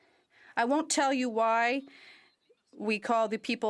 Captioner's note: speaking French